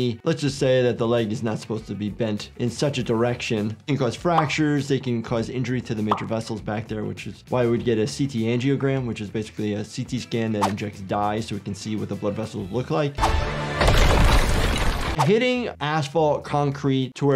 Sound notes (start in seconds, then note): 13.2 dramatic music; 13.7 asphalt shattering